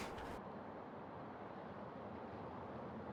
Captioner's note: wind blowing